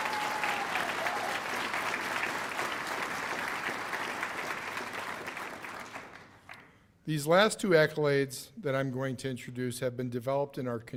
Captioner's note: cheers and applause